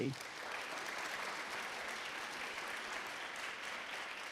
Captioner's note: audience applauds